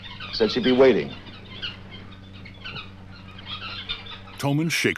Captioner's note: chirping continues